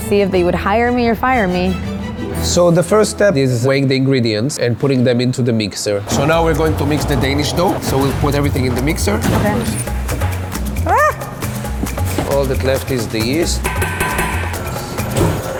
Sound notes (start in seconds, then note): 10.7 squeals; 15.3 whirring